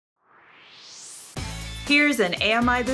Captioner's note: swoosh